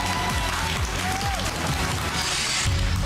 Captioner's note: applause, cheering